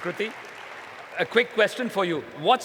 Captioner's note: applause